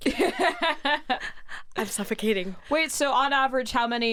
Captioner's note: laughs